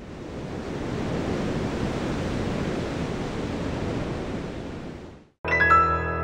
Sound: surf roaring

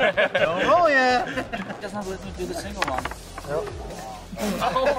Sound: laughter

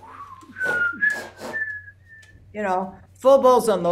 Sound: whistles notes

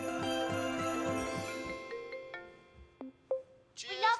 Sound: laptop rings, chimes

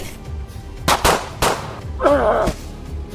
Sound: gun fire; screams

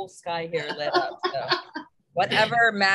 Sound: laughs

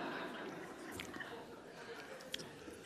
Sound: laughs

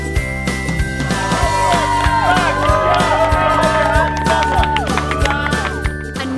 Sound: cheering

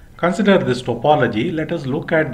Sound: static curve

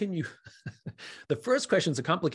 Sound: Simon chuckles

